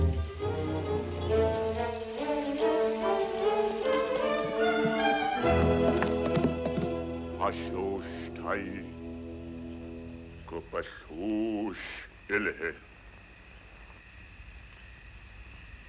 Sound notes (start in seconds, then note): 7.5 speaking in foreign language